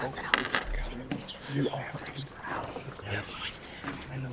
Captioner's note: whispering continues